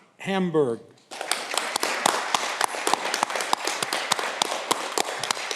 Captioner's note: audience clapping